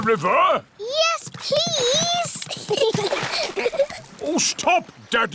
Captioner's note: giggles